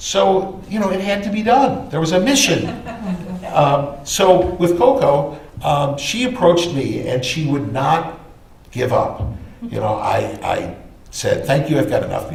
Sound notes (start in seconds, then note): 2.3 laughter